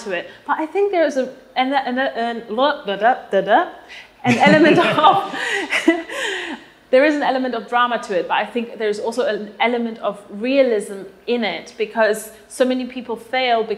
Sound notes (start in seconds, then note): 4.2 laugh